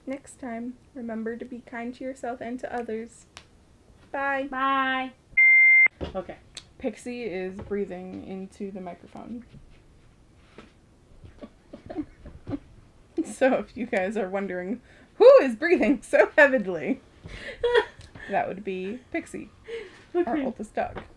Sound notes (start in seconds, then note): 5.4 loud beep; 11.3 laughs